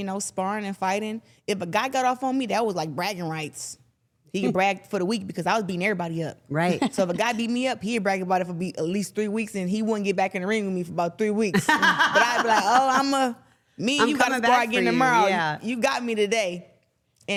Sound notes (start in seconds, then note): 11.5 laughing